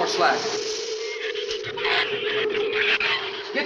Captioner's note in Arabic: ثرثرة الزبابة